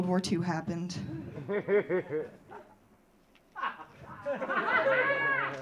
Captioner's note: audience laughing